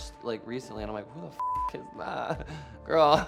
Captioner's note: beep